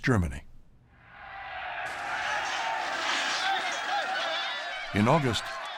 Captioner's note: shouting